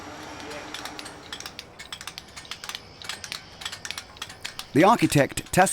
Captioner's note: chisels clinking